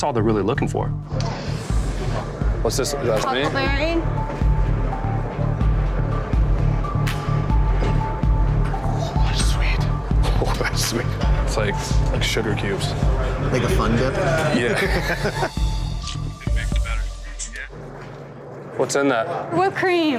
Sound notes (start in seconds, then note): 5.4 tense music; 14.4 both laughing